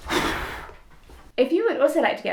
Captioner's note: blows